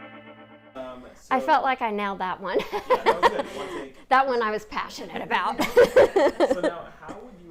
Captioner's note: laughs